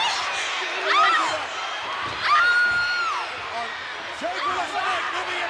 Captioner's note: Elizabeth screaming